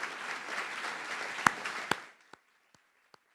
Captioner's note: applause